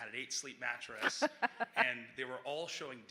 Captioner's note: laughing